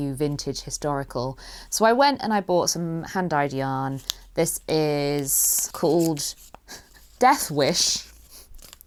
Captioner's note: chuckles